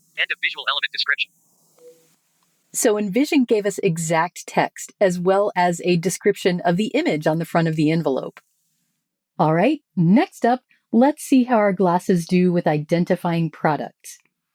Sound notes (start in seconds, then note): 1.7 Envision beeps